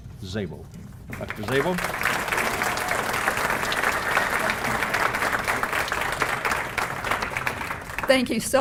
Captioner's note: applause